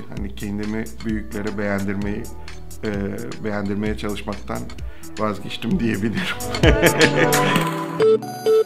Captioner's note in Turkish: Gülme